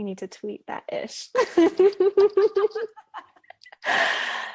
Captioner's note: laughs